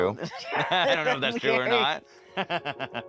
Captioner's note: laughs